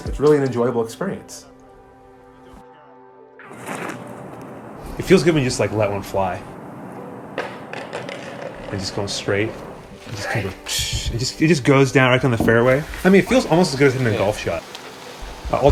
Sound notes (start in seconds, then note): 9.6 imitates disc skidding